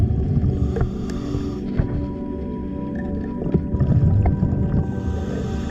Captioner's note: underwater sounds continue